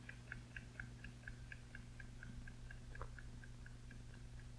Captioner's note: clock ticking